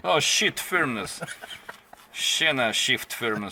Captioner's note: laughs